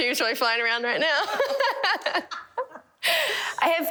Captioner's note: all laugh